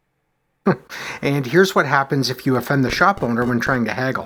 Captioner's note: chuckles